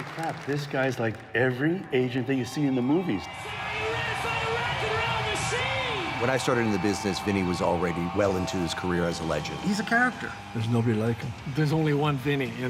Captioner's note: applause